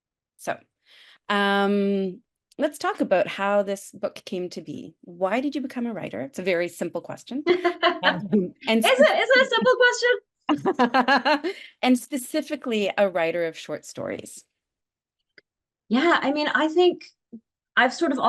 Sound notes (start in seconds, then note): 7.4 laughs; 10.5 laughs